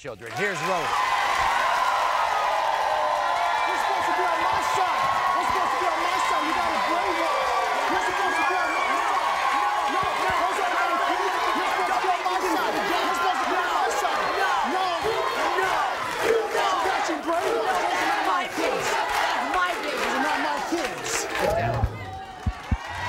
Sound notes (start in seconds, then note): 1.8 crowd cheering; 11.2 intense arguing; 16.0 crowd; 20.2 crowd cheering